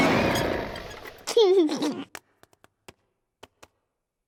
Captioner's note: beeps and roars; laughs